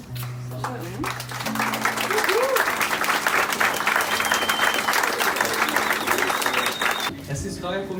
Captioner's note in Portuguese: aplausos